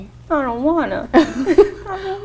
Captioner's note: laughing